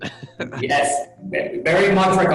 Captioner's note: laughs